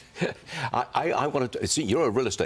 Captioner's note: laughter